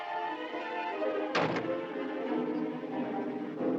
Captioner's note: door Slams